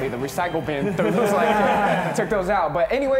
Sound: laughing

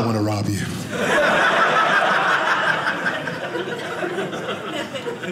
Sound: audience laughing

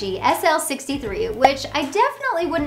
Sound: graphics pop

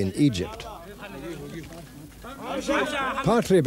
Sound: non-english speech

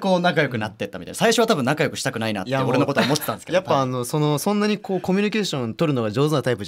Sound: laugh

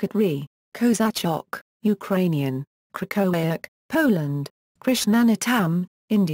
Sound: Ukrainian

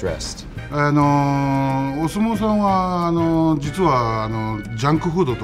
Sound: speaking in foreign language

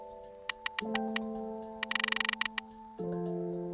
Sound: clicking sound

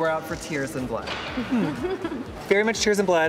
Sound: giggles

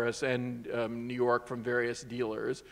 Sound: none

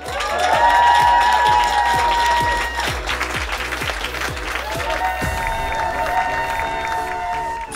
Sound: applause

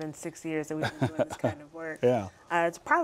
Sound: laughter

